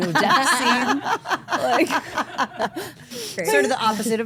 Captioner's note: group laughs